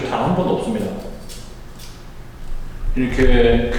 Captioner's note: confident voice and unstable cutting